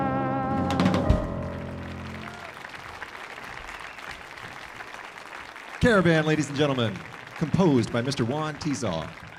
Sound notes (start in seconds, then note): 0.5 audience cheering; 1.1 audience applauding